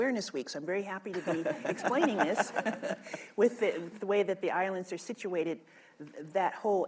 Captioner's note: laughter